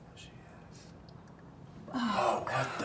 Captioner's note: whispers